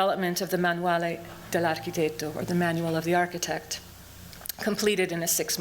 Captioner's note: non-english speech